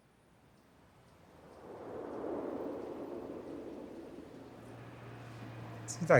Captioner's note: wind